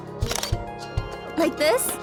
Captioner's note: camera snap